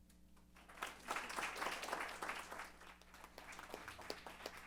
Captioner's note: applause